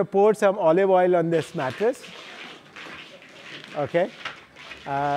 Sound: oil splashes

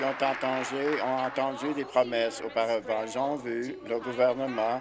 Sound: applause

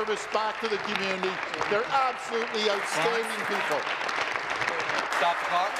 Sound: applause

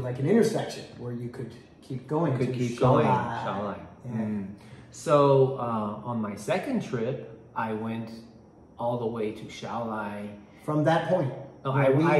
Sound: Mandarin

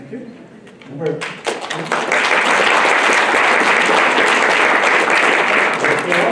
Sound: applause

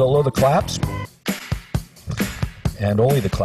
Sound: rhythmic clapping

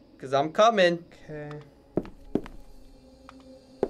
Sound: loud footsteps

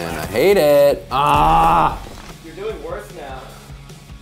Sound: grunting

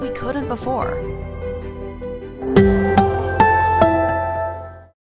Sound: sonic logo

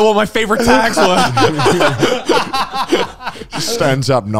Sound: all laughing

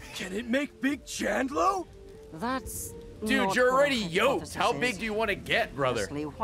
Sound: laughs

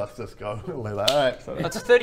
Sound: snap

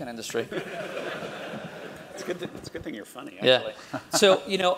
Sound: laugh

